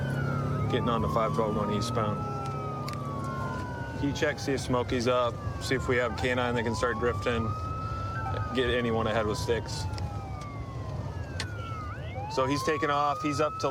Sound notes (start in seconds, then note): 9.6 sirens wailing